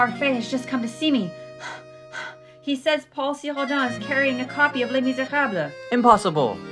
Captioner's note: panting